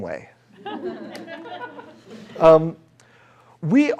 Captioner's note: laughter